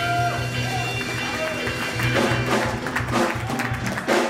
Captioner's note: applause